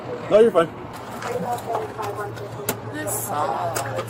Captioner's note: radio chatter